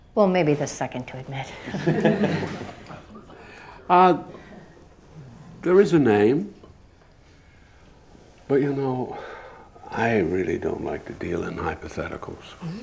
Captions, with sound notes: - Well maybe the second to admit. (people laughing) - There is a name. But you know, I really don't like to deal in hypotheticals.